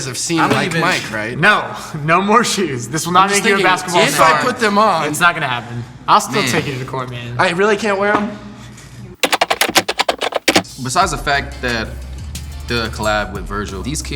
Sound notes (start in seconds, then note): 9.2 typing loudly